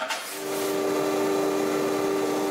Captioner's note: droning